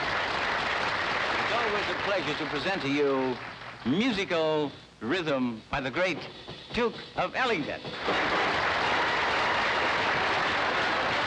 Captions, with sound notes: It's always a pleasure to present to you musical rhythm by the great Duke of Ellington. [audience applauding]